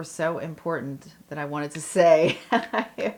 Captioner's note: laugh